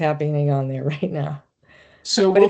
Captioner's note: chuckling